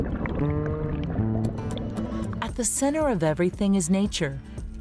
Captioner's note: water gurgling